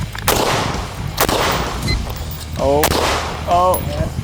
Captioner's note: gun bangs